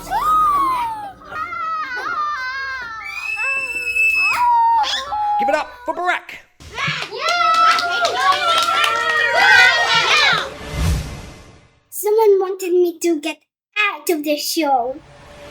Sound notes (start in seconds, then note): 0.0 children screaming; 6.6 children cheering